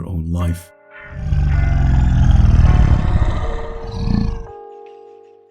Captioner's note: gorilla Grunt